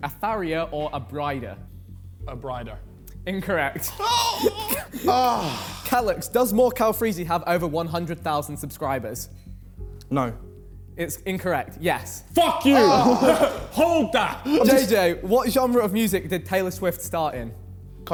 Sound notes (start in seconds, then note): 3.8 men moaning; 12.4 men exclaiming